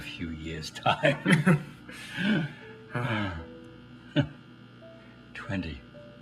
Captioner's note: the two laugh